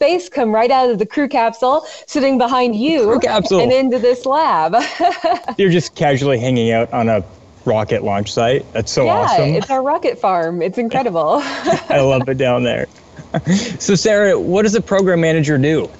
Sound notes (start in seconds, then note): 3.0 laughs; 11.3 laughs; 11.3 chuckles